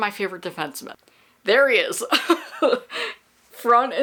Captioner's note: laughs